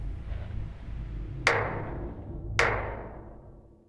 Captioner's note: tapping noise